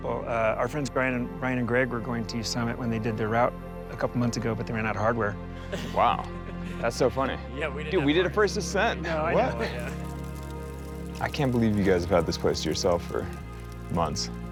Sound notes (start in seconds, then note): 10.9 fire crackling